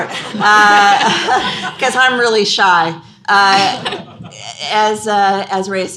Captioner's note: laughter